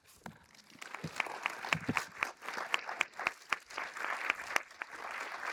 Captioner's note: everyone applauding